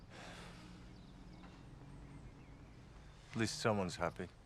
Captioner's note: Rob sighs